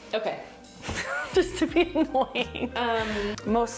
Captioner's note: laughing